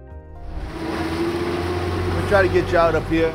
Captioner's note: boat whirring